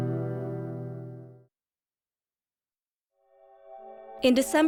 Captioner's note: silence